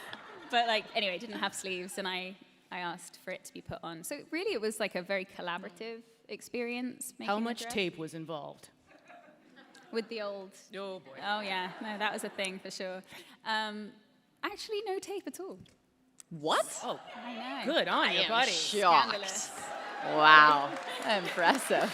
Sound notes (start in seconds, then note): 0.0 laughter; 8.9 laughter; 11.4 laughter; 16.6 exclamations from Audience